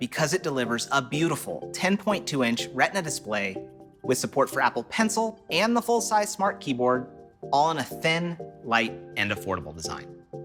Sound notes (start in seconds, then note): none